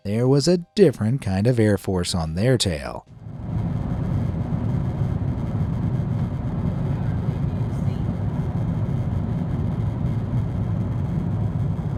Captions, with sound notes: there was a different kind of air force on their tail. (engine whirring)